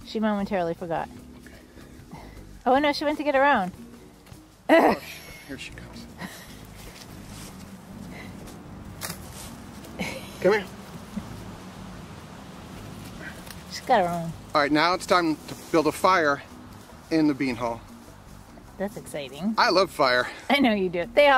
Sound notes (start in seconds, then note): 0.1 leaves crunch; 4.7 chuckles; 7.0 leaves crunch